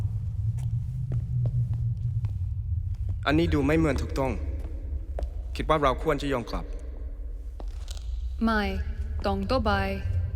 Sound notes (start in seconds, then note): 3.7 couple speaking in foreign language